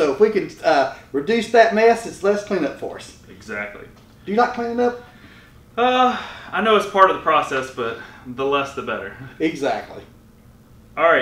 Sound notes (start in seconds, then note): 5.8 sighing